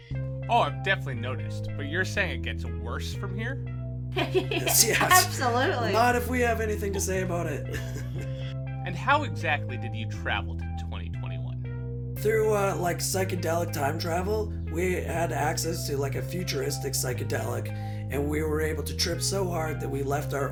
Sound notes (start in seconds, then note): 4.1 laughter and confirmation